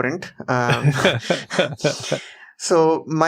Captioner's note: laughs